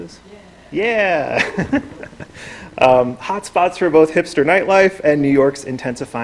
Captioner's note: laughs